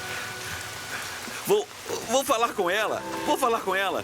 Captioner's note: voice breaking